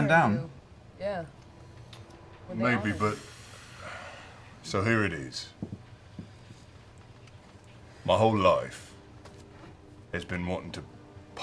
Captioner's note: sighs